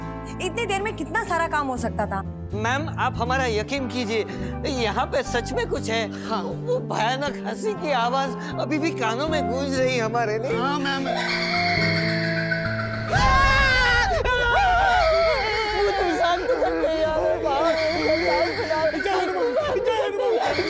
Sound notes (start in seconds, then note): 11.0 maniacal laugh; 12.9 screaming